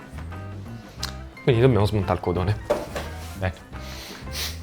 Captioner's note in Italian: sbuffare